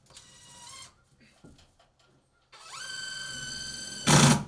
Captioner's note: drill whirring